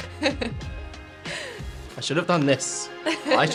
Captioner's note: laugh